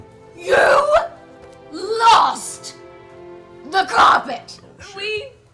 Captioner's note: shouting